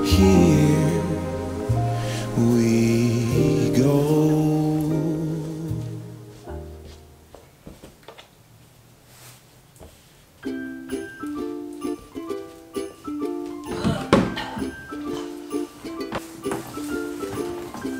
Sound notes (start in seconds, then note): 6.4 shoes clacking; 10.5 lively upbeat music; 13.6 banging; 14.0 grunts; 14.8 lively upbeat music